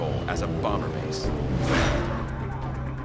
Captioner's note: engine roaring